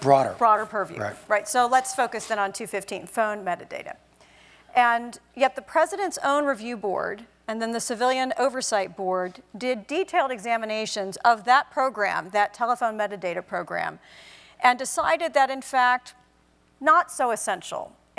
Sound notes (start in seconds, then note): none